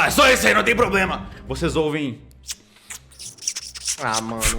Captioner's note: squeaks